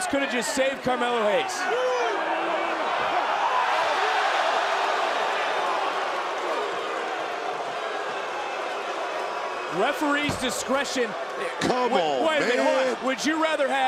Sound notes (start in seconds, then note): 2.6 crowd boos